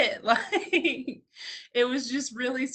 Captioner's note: laughs